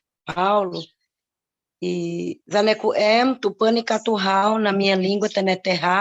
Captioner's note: speaking indigenous language